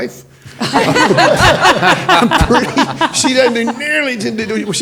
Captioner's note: panelists laughing